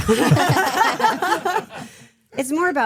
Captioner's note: laughing